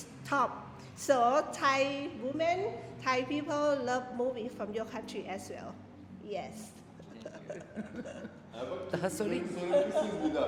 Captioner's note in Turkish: kahkaha